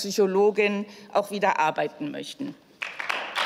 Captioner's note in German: Beifall